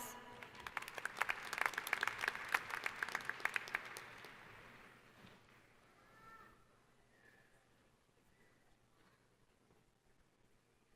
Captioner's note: applause